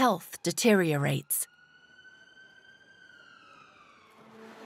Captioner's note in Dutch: sirene jammert